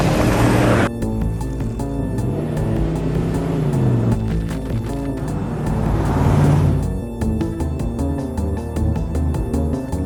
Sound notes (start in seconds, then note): 1.9 engine revving